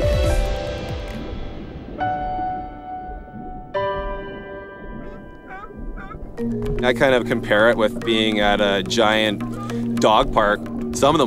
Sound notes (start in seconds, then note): 0.1 light piano music; 5.4 sea lions barking